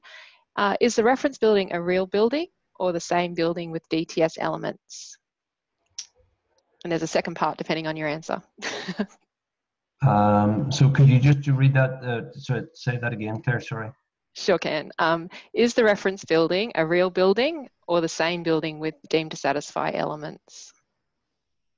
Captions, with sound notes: Is the reference building a real building or the same building with DTS elements? And there's a second part depending on your answer. (laughs) - Could you just say that again, Clare, sorry? - Sure can. Is the reference building a real building or the same building with deemed-to-satisfy elements?